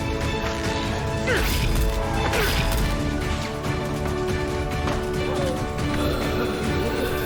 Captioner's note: weapons clanging; fighters grunting